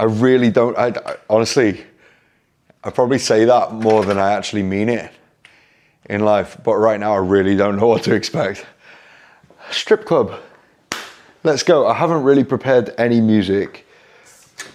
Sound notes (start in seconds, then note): 10.9 claps hands